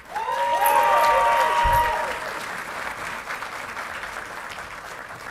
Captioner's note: audience clapping and cheering